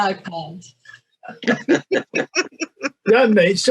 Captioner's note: muted chuckling